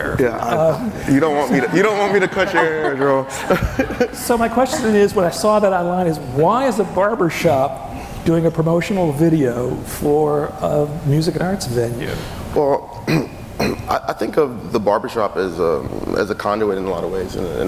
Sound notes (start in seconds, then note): 3.5 laughing